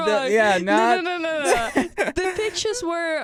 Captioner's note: laughs